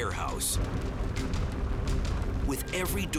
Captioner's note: fire roaring